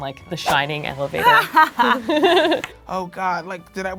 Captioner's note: laughs